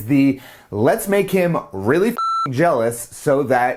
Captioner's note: beep